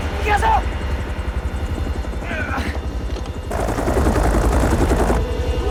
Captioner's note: grunts